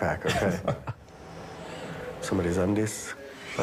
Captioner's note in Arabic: يضحك